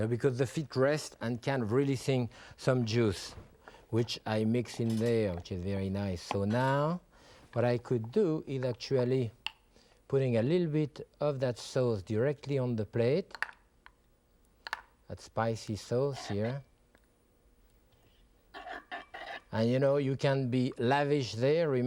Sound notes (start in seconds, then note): 18.6 spoon swirling on plate